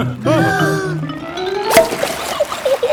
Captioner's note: breathing in